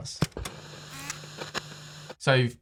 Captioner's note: TV screen hissing